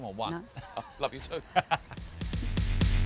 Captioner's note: laughs; upbeat music